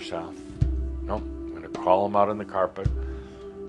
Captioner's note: none